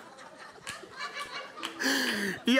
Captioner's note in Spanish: Ríe